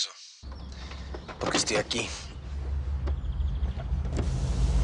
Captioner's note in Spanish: Portazo